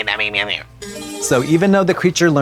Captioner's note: bright chime